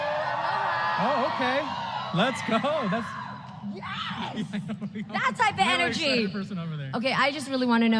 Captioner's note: applause